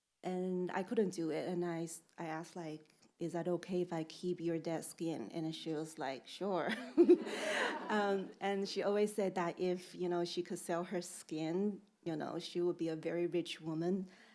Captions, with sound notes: And I couldn't do it. And I asked like, "Is that okay if I keep your dead skin?" And she was like, "Sure." (chuckles) (audience laughing) And she always said that if, you know, she could sell her skin, you know, she would be a very rich woman.